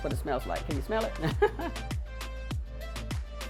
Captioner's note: laughs; upbeat music